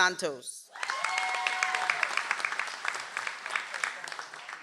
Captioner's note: audience applauds